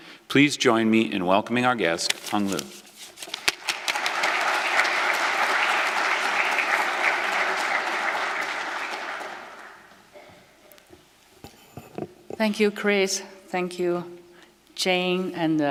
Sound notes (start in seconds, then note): 3.3 applause